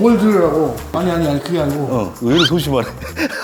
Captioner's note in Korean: 혼잣말